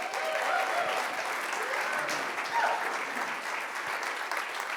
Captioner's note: applause